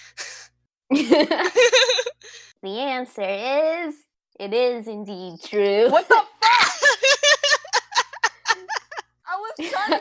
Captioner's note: laughs